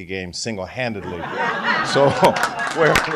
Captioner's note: laughter